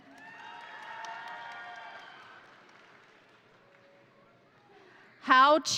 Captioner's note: crowd cheering; crowd applauding